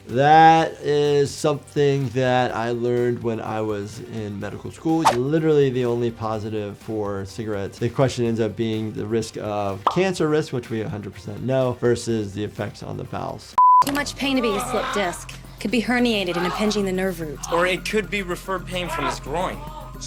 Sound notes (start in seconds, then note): 13.6 digital beep